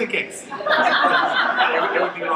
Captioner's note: laughter